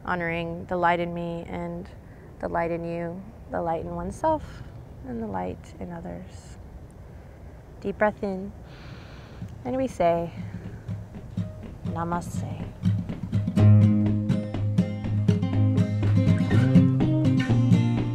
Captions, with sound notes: honoring the light in me and the light in you. The light in oneself and the light in others. Deep breath in. (takes deep breath) And we say, Namaste. (energetic music)